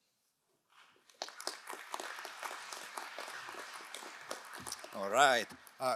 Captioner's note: crowd applauding